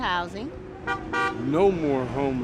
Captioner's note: honking car sound